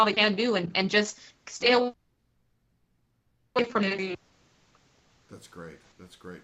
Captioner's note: technical interference